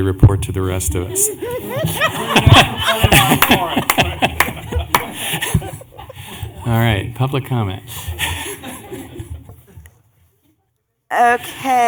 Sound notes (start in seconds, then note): 6.4 laughter